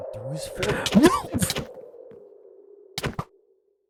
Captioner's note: groan